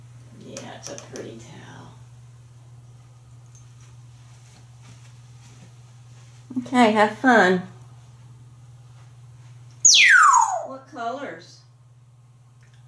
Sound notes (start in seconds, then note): 9.8 whistling